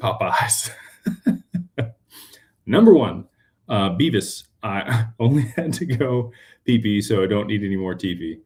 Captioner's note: laughter